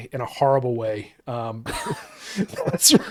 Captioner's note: laughing